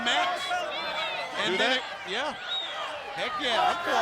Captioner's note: spectators shout